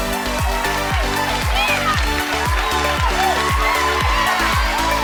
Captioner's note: audience cheering; bright music